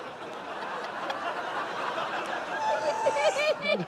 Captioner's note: laughter